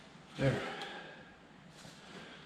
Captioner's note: exhaling